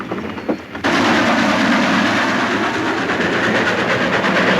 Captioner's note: train chugging